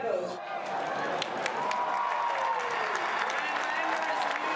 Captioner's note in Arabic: هتاف الجمهور